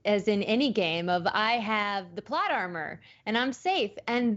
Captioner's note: none